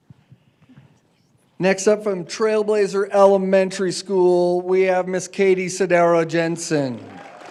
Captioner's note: applause